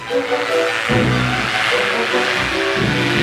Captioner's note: airplane rotor noises